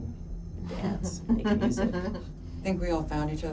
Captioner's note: Pam laughing